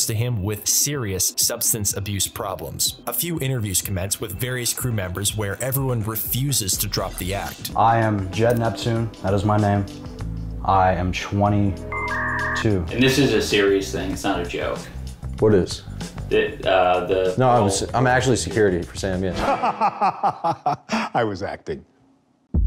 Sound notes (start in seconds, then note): 11.9 dialup sound effect